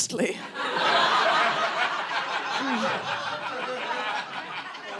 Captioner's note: audience laughing